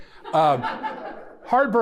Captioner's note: audience laughing